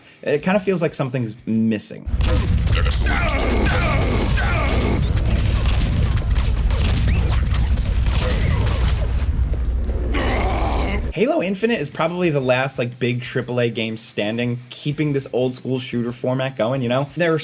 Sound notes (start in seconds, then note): 2.8 character grunting; 4.3 gun firing; 6.4 gun clicks; 7.3 gun firing; 10.0 character grunting; 11.3 voiceover